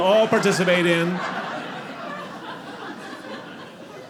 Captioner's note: audience laughing